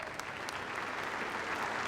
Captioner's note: applause